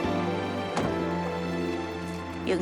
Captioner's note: car door shuts